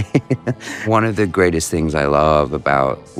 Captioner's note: laughs